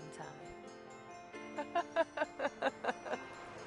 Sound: laughs

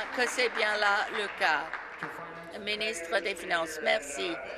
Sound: applause

